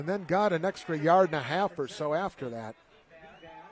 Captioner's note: applause